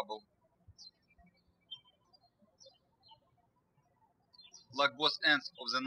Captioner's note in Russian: птички щебечут